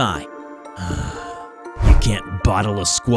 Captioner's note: sigh